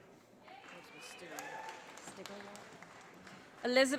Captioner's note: audience applauding